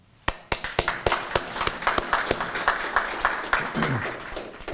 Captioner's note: audience applauding